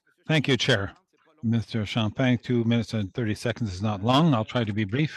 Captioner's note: speaking French